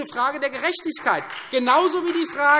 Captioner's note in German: Beifall Freie Demokraten